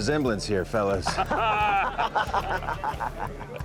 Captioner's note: men laugh